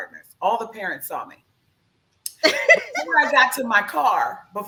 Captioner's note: laughs